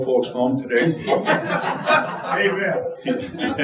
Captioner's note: audience laughing